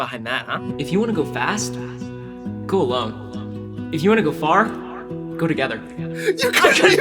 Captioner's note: echoes over music